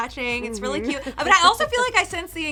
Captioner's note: chuckles